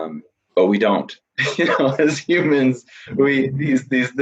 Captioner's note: laughs